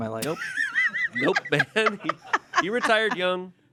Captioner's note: everyone laughs